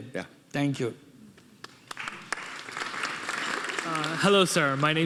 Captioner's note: audience applauding